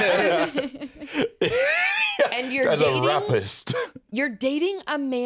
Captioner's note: all laugh; laughs